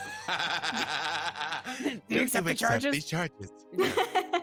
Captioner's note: actors laughing